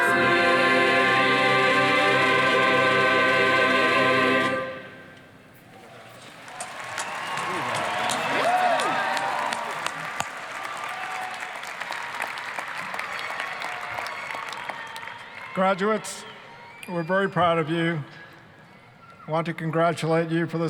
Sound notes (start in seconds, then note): 6.2 applause